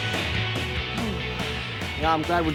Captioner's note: sighs